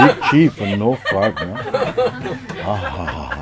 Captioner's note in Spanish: Risas